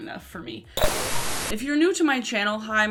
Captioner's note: static buzzing